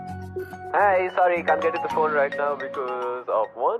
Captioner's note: answering machine